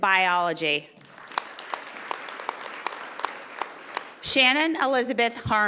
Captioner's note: audience applauding